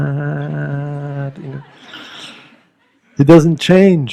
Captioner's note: laughter